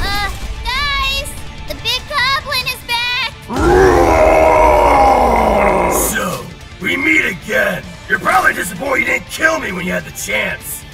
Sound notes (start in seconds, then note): 3.5 Scream of a One-Eyed Goblin